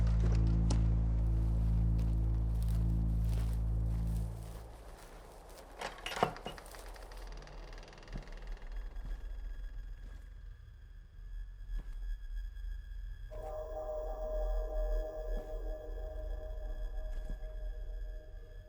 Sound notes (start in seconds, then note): 5.8 door opens and creaks; 7.6 suspenseful music